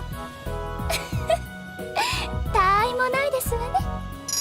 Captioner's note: triumphant giggle